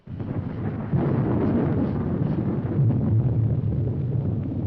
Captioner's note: thunder rumbling